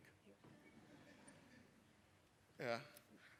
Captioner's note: laughter